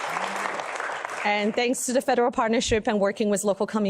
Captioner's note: applause